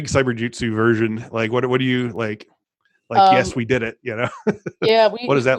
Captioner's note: laughs